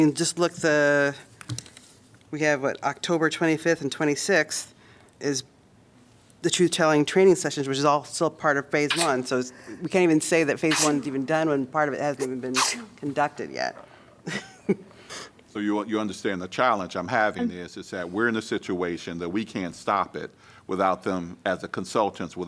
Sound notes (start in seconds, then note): 14.2 laughter